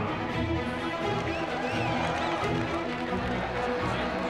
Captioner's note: cheering